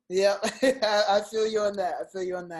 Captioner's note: laughs